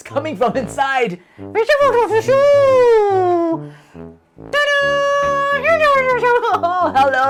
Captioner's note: speaking elvish